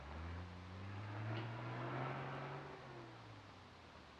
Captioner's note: engine revving